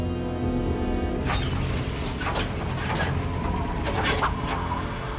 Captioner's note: glass smashes